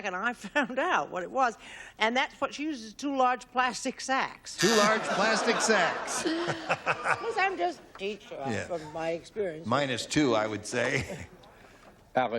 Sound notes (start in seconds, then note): 6.8 laughs